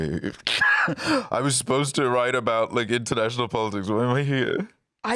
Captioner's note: laughs